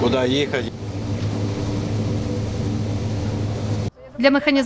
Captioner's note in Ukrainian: Шум техніки